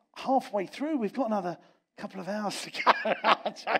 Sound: laughs

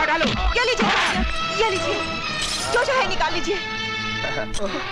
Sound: keys jangle

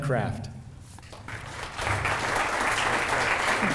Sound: clapping

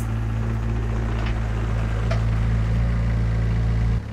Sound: equipment rumbling

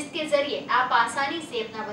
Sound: hindi

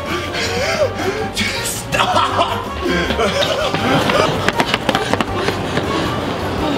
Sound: sinister music; security guard gasps

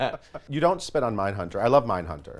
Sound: laughs

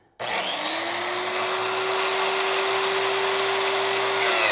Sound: machine buzzing

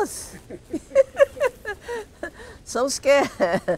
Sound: laughs

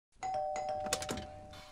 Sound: doorbell rings

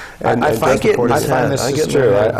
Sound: laugh

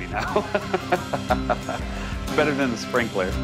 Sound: laughing

